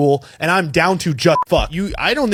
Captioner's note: beep